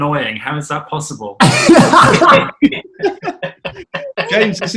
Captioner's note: laughing